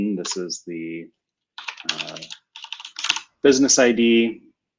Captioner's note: typing